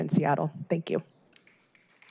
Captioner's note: applause